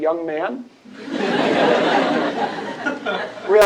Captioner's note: laughter